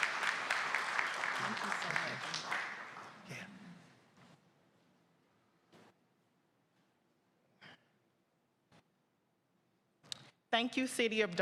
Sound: applause

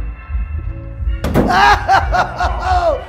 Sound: loud banging noise

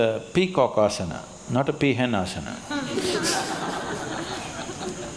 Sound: laughter

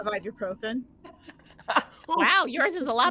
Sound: all laughing

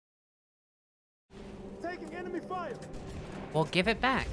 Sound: regular game noises resume

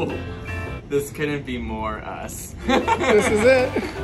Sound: laughs

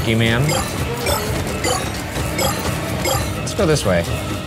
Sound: shards bleeping

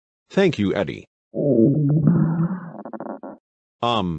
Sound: stomach gurgling

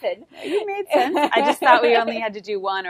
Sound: laughs

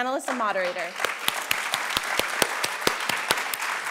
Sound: applause

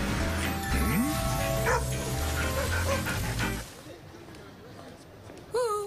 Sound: vocalizing, barking

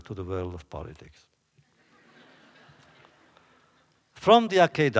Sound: laughter

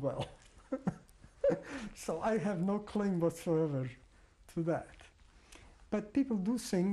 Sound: laughs

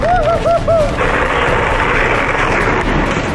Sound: spectators chattering; bike rolling; dramatic music

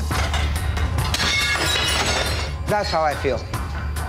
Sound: plate shattering

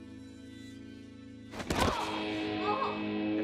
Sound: Joe groans

